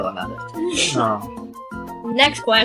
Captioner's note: whosh